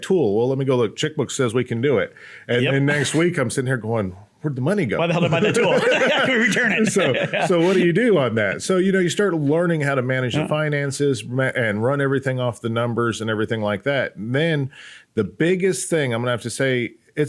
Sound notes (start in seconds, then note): 5.1 both laugh